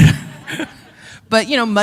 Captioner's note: chuckle